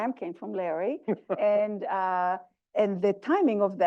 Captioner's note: laugh